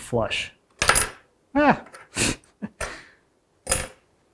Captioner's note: hinge clangs